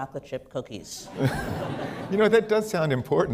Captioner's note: laughter